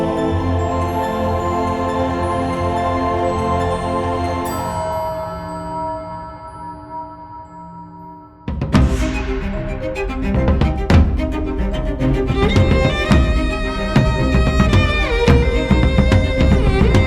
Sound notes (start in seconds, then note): 4.6 church bell rings